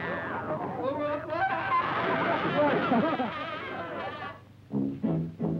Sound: public pest no. 21 yells

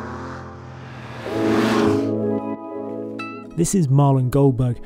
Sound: engine roars

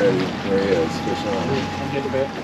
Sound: boat engine running

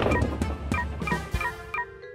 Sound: beeping

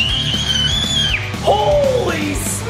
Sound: screams

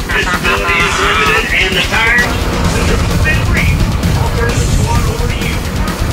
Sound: laughing; rock music; speaking over bus speakers

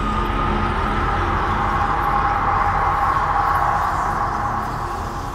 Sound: demonic whispering

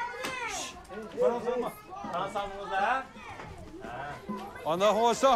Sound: children shouting

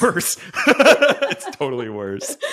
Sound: laugh

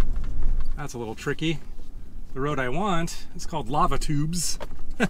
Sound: laughs

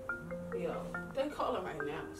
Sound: phone ring

